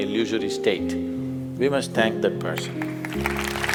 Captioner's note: applause